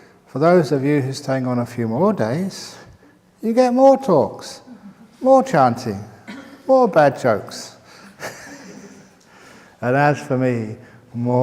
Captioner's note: chuckle